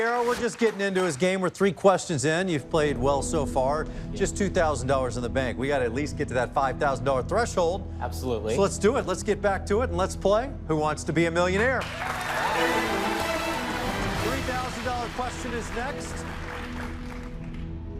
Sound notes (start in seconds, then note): 11.7 cheers and applause; 13.6 dramatic musical flourish; 16.8 dramatic music